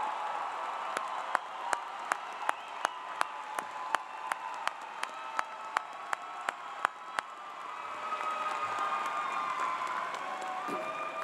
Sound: cheers and Applause

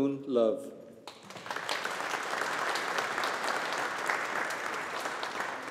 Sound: audience applauding

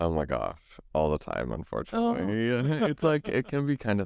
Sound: laughs

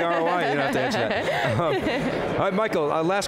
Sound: giggles

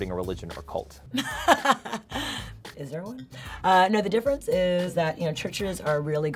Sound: laughs

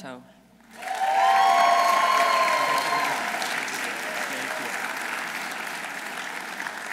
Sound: audience applauding; audience cheering

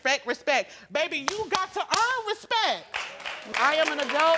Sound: claps for emphasis

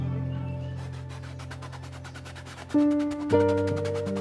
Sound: paint brushing

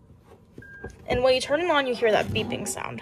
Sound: beep

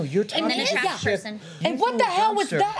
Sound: overlapping chatter

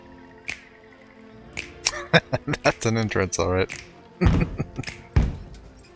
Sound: laughing

